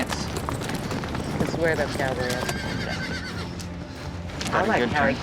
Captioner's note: horse neighing